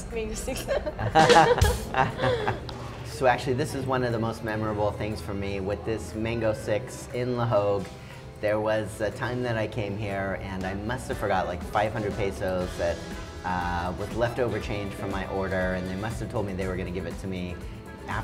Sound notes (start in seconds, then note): 0.9 drumbeat effects; 2.1 laughing